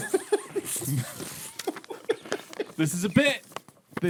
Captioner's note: laughing